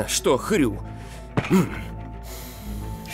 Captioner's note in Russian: злой вздох